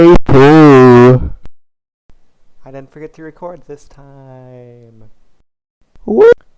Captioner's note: whisper